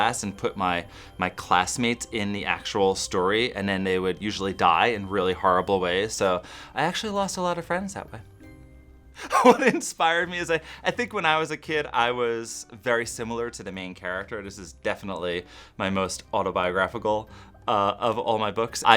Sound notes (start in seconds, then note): 9.2 laugh